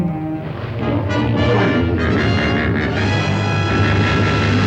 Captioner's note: hippos bellowing